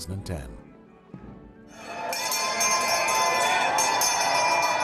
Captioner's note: bell ringing